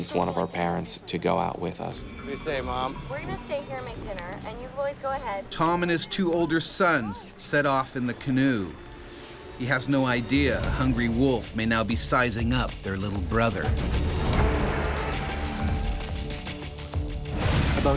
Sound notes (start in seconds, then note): 5.7 voiceover; 14.9 suspenseful music